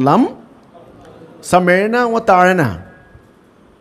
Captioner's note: Arabic